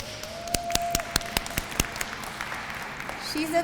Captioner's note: applause